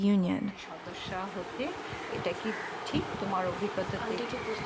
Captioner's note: speaking Indian language